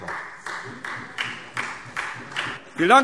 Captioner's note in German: Beifall